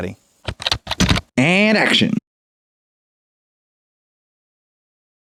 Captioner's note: typing